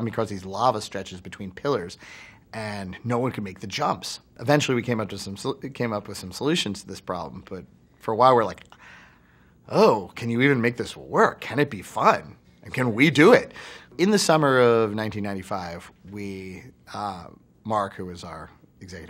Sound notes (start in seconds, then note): none